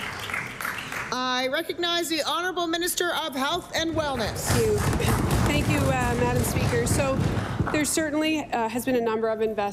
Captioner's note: applause